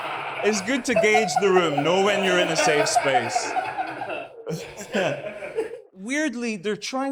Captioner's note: audience laughs